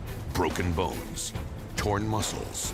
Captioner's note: none